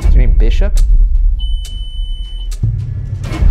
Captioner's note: beeping; dramatic music